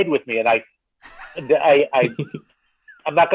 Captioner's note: laughing